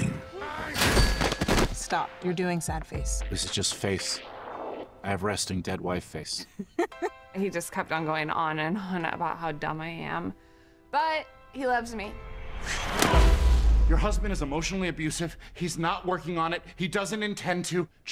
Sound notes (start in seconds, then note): 0.2 exclaims; 10.4 inhales deeply